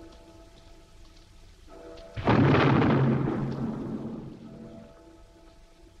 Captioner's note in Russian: звук взрыва